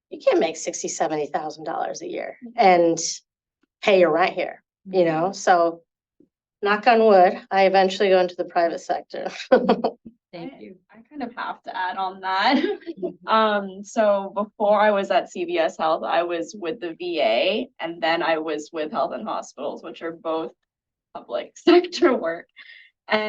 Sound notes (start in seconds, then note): 9.5 chuckles